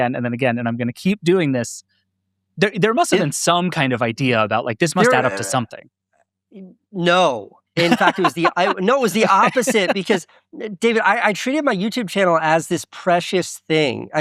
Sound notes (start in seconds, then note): 7.8 laughing